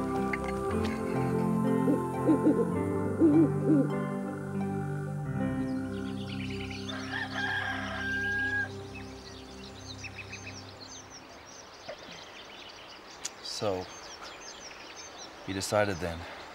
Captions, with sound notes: (owl hooting) (rooster crowing) - So, he decided then.